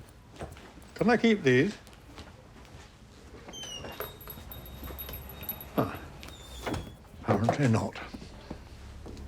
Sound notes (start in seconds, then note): 3.5 door creaks, shuts